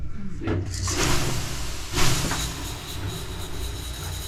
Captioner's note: water pouring sound